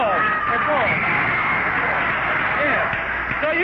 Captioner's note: audience cheering